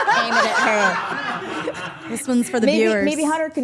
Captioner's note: group laughing